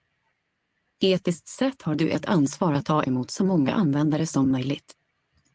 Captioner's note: ReadSpeaker speaks Swedish